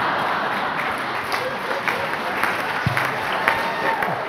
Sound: audience laughs; applauds

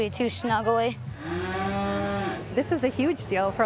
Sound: cow mooing

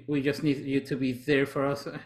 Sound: none

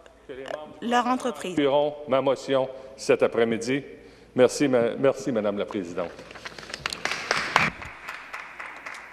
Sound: speaking French

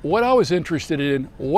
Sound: sounds of pre- game introduction

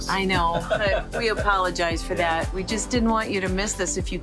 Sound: laughing

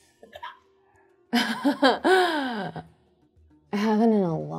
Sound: chuckles

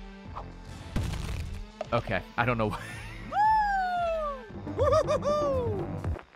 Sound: laughs

